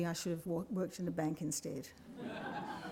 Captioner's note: laughter